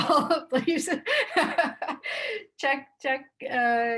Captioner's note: laughs